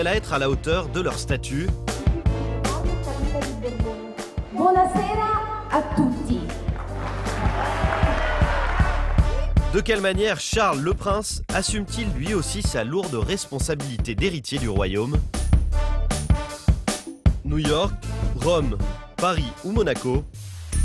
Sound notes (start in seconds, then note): 4.5 speaks in Italian; 6.6 applause